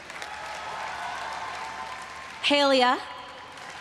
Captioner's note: everyone cheering and applauding